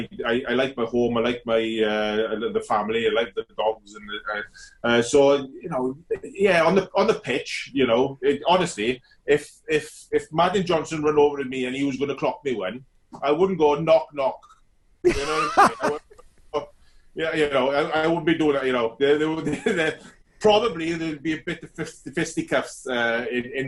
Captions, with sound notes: I like my home, I like the family, I like the dogs and the cats. So yeah, on the pitch, honestly, if Martin Johnson went over to me and he was going to clock me well I wouldn't go knock, knock. (laughs loudly) You know what I mean? I wouldn't be doing that. probably there'll be a bit of fisticuffs in that scenario.